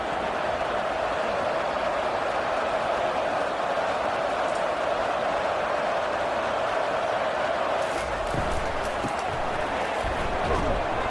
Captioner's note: crowd Noises